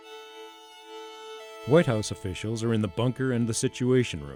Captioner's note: melancholy music; voiceover